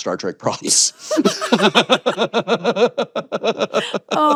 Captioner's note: both laughing